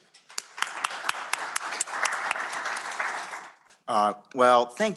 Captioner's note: applause